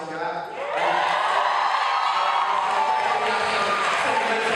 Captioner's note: applause